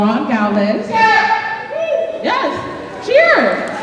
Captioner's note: shouting from the crowd